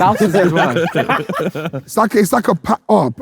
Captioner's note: group laughing